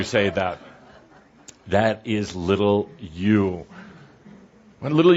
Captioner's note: some laughter